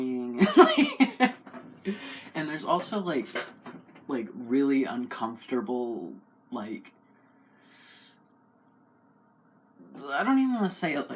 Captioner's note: laugh